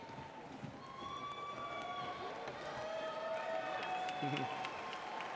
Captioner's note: audience whooping